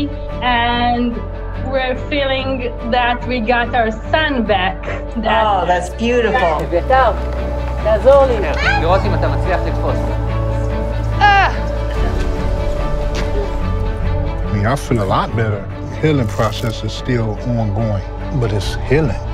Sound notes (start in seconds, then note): 6.6 indistinct chatter; 10.1 uplifting music